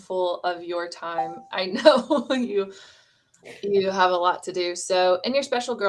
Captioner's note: laughter